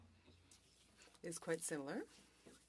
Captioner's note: speaking French